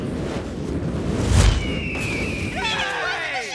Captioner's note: bird screeching